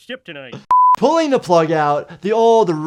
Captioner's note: beeping